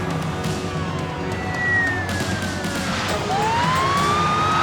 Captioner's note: sirens wailing